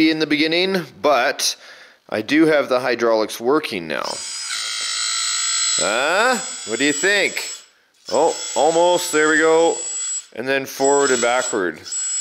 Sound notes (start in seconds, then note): 4.1 high pitch whirring